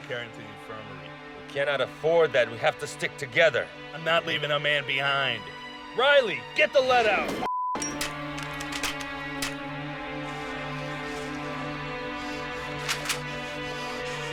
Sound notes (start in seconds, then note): 6.3 gun fires; 7.8 guns click and %*#; 12.6 gun clicks